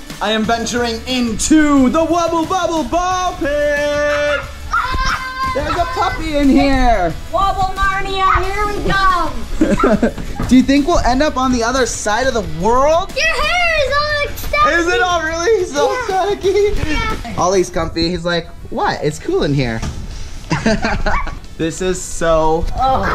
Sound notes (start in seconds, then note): 3.6 laughing; 4.0 screaming; 9.2 laughing; 20.4 laughs